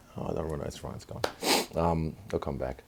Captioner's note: sniff